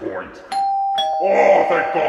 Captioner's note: doorbell rings